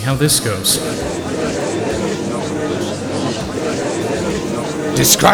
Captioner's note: gallery chattering